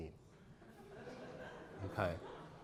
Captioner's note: audience laughter